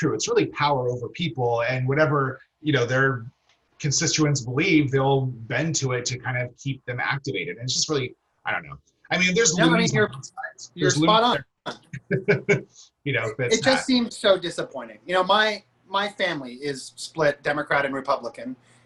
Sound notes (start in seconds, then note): 12.0 laughter